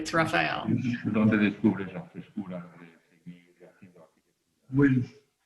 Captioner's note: speaking spanish